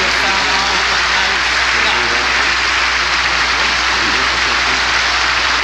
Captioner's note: audience applauding